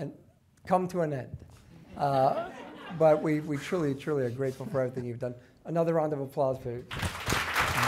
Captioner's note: clapping